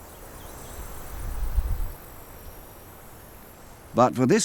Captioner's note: insects buzzing